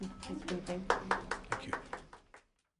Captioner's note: applause